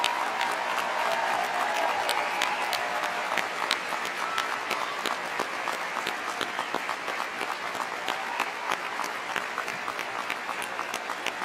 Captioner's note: applause